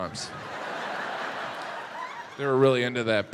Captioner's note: audience laughs